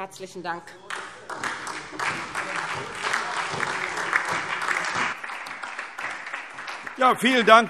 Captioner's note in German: Beifall SPD und DIE LINKE